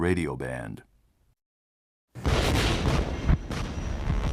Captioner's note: explosions